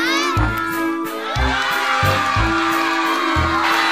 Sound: all cheering

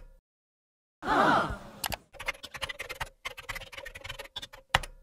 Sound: audience gasps

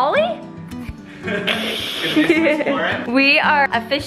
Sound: laughs

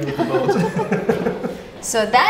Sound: everyone laughs

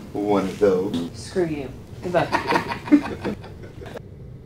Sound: laughing

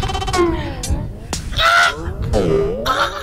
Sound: rooster crowing

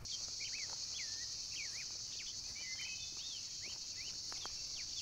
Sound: birds and insects chirp

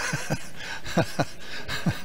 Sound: laughs

